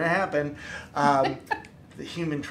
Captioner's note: laughing